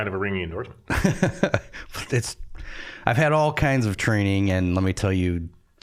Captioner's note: chuckling